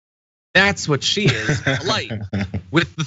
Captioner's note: laugh